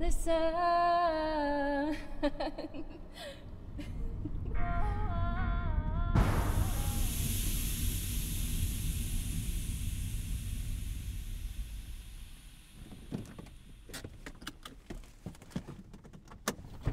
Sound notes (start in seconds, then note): 2.0 Amy Chuckles; 6.3 engine Sputters and Whirs; 13.8 handbrake Engages; 13.9 seatbelt Clicks; 14.6 door Opens